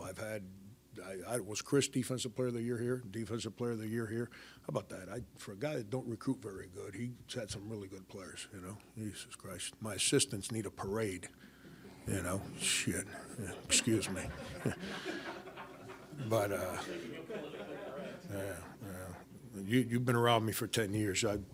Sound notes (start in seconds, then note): 12.3 crowd laughing